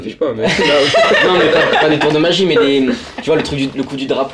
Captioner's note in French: ils rient